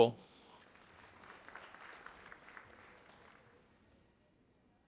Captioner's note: audience applauding